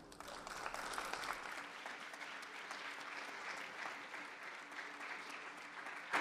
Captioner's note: audience applause